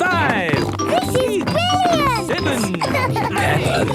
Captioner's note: snorting